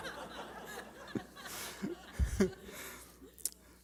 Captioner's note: laughter